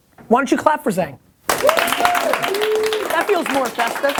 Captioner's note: applause